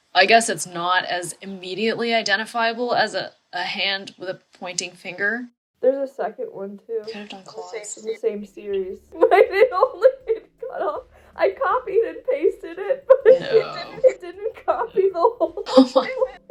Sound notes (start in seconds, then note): 6.9 with melancholy; 9.2 incomprehensible half-laughter half-spiraling